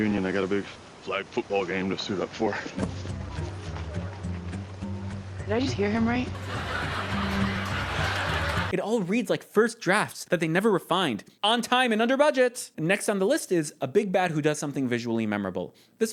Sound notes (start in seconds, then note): 6.4 canned laugh track